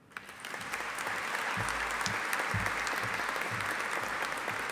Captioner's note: audience applauding